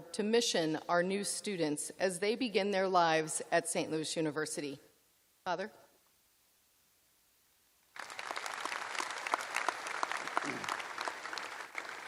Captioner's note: applause